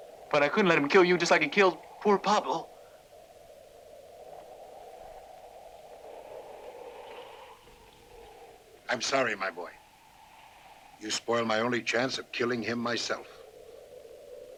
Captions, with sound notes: - But I couldn't let him kill you just like he killed poor Pablo. (wind whooshing) - I'm sorry, my boy. You spoiled my only chance of killing him myself.